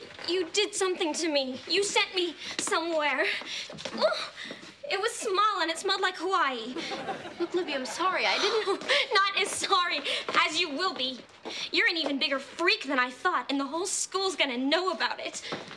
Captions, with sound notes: You did something to me. You sent me somewhere. It was small and it smelled like Hawaii. (audience laughing) - Libby, I'm sorry I didn't. - Not as sorry as you will be. You're an even bigger freak than I thought and the whole school's gonna know about it.